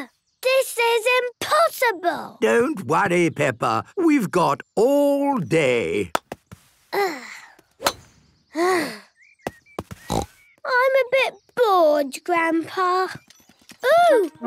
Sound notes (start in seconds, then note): 7.0 sighs; 10.0 snort